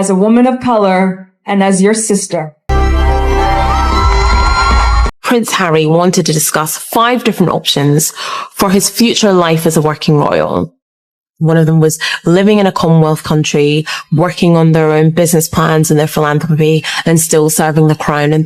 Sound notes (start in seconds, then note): 2.8 cheers and applause